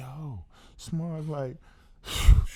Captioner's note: exhales